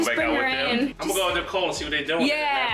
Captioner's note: pops